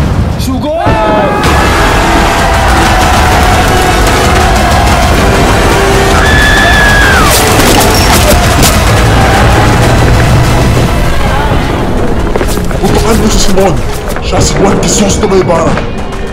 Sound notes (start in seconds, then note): 1.3 Rebels war cry; 6.2 Paulita screaming